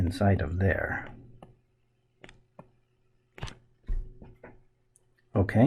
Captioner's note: writing Sounds